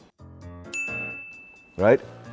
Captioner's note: ding